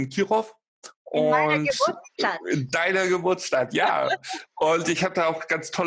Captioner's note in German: lacht